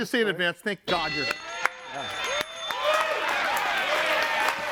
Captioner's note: audience cheering